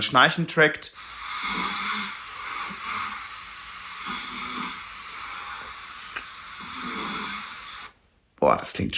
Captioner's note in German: Schnarchen